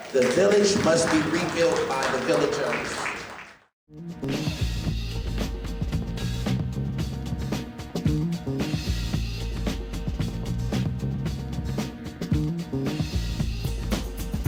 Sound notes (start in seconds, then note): 2.9 clapping